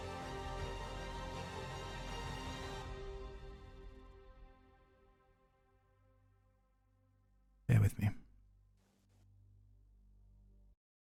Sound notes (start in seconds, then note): 0.1 music continues to build; 3.6 silence; 9.0 waiting in silence